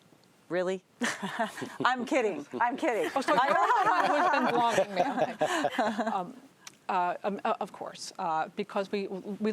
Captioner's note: laughter